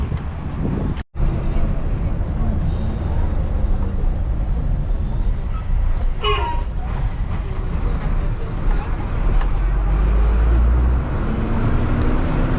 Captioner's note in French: Bruits du bus